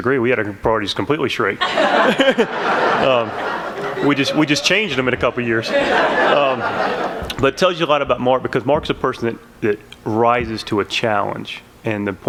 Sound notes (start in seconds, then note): 1.6 laughter